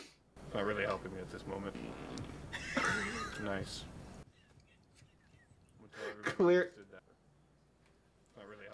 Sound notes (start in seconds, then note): 2.4 laughing fit started